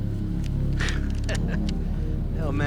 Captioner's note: chuckles